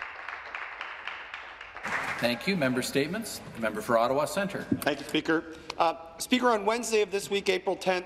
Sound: some Applause

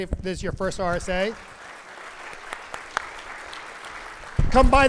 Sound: audience applauds

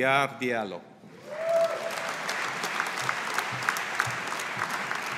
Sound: audience applauding

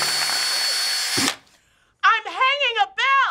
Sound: none

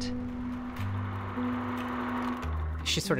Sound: film reel clicking

